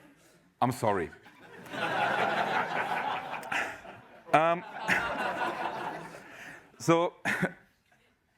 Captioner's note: laugh